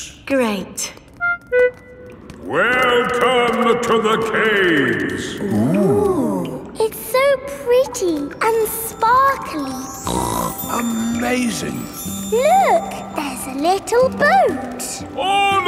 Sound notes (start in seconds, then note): 10.0 snorts